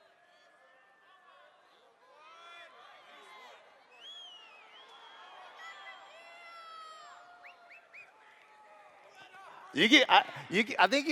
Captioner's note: shouts